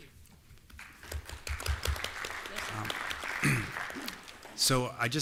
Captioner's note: applause